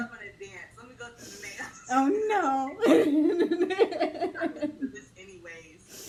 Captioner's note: laughs